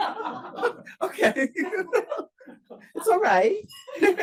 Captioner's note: laughs